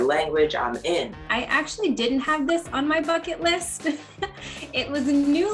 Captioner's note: laughs